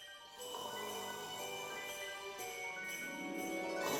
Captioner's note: Longbutt snores